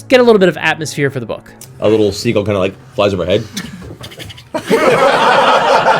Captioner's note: scribbles; all laugh